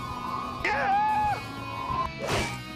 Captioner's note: screams